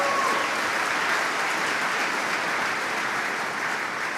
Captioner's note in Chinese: Applause; 掌声